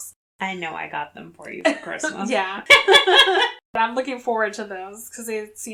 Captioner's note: laughs